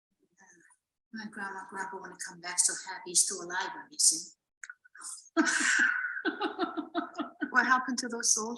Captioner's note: laughs